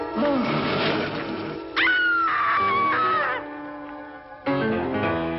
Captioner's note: werewolf growling; Mary screaming; ominous music